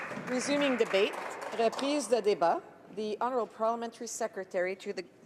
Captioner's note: applause